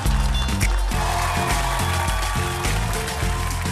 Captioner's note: audience applauds